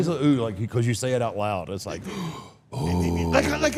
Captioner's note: gasps